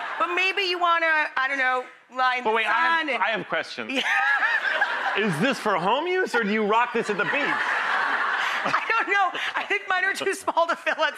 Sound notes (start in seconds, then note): 6.3 audience laughing